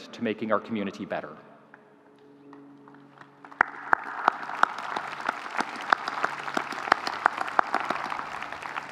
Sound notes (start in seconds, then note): 2.8 audience applauding